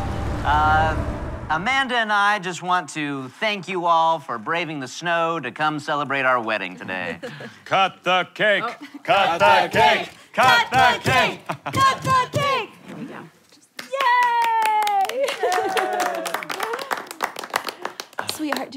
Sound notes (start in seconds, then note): 0.0 audience cheering; 9.0 chanting begins; 13.9 cheering